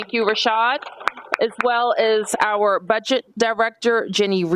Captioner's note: applause